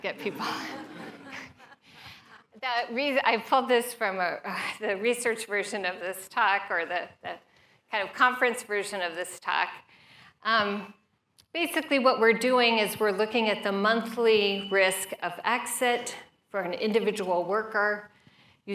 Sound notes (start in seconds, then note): 2.6 laughter